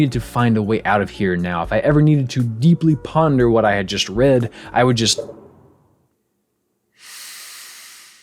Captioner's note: inhales, exhales